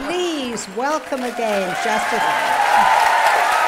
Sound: cheers and applause

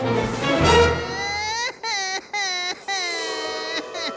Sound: crying

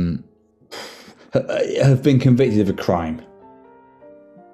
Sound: exhales

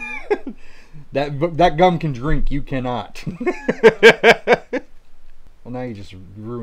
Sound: laughing; laughing

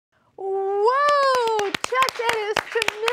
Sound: applause

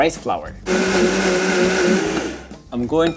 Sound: blender whirring

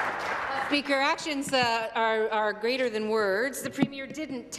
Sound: some Applause

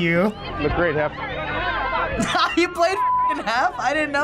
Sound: laughs

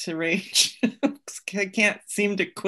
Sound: laughs

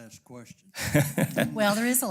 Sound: laugh

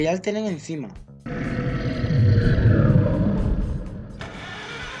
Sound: snarl

